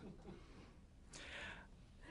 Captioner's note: laughter